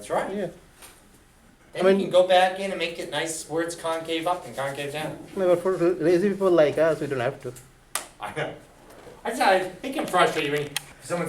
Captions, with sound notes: - That's right. Then when you go back in and make it nice, where it's concave up and concave down. - [Voiceover] I mean, for lazy people like us, we don't have to. - I know. It's not, think how frustrating it would be